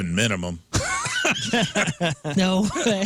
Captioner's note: laughing